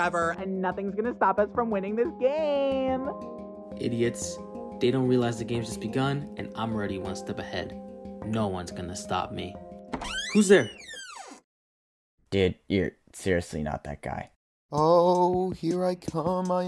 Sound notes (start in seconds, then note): 9.9 door creaking